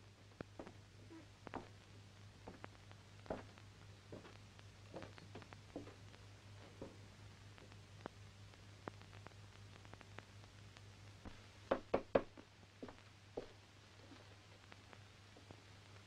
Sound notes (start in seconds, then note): 0.2 floor pattering; 11.7 door knocking